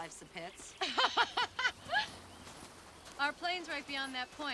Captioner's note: ladies laughing